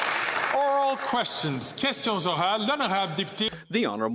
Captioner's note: some Applause